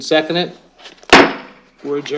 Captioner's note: gavel bangs